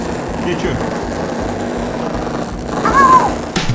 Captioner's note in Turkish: Elektrikli motor sesi